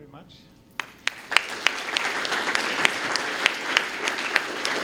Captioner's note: applause